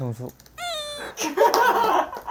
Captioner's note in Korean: 뿌엥